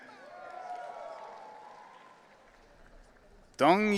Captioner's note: audience cheering